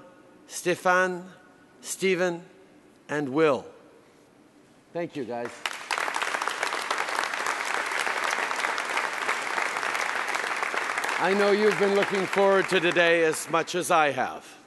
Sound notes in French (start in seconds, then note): 5.4 Applaudissements